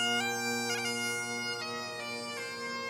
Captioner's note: none